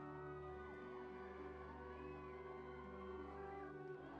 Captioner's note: people cheering